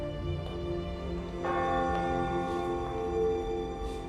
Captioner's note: church bell ringing